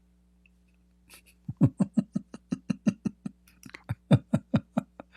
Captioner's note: Ketawa